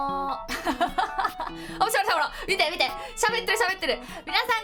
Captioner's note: laugh